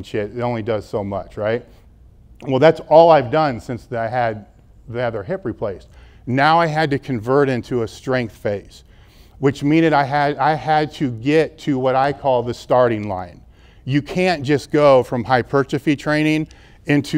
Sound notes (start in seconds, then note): none